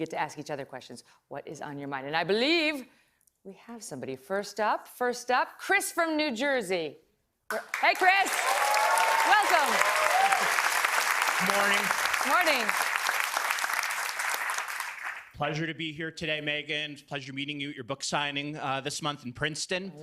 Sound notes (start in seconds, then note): 14.7 applause